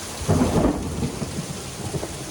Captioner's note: thunder